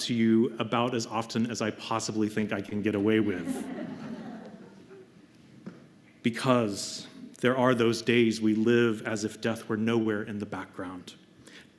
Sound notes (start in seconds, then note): 3.2 laughter